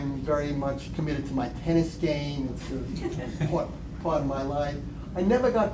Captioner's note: laughter